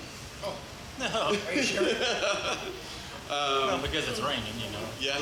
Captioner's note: laughs